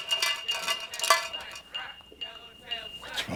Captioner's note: distant voices from outside